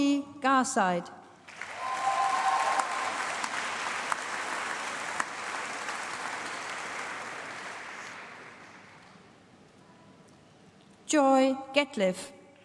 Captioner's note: applause